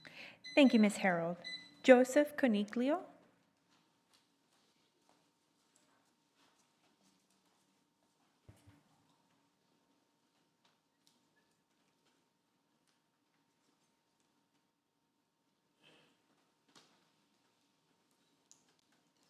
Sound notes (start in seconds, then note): 5.8 lapse in audio